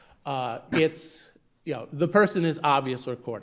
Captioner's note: attendee coughing